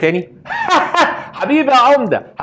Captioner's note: laughing